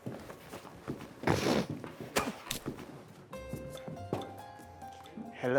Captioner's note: clothes shuffling; Zeke hawking and spitting